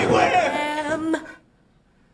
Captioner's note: chair falling